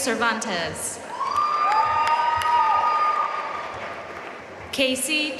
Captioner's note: audience cheering and applauding